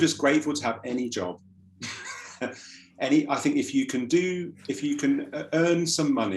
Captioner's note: laughs